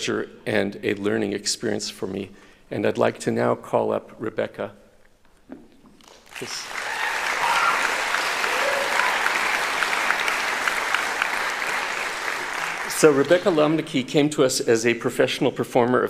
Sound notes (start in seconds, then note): 5.0 applauding; 6.4 cheering